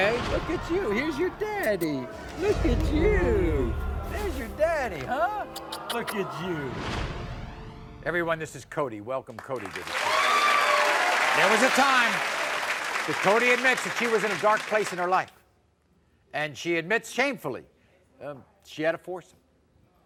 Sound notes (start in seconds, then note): 9.4 audience applause